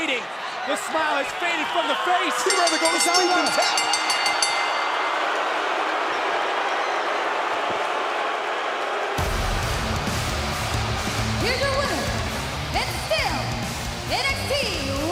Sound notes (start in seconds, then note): 5.4 bell ringing; 10.6 crowd cheering